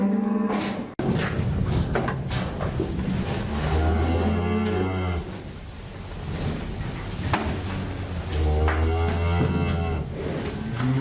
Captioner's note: cattle sounds